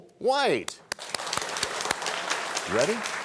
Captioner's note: applause